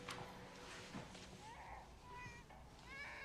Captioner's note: baby Crying